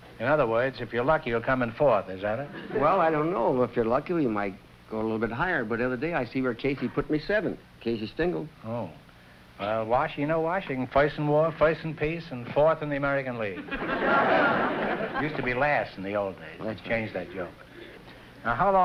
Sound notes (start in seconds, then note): 13.5 laughter